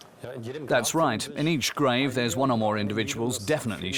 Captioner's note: in German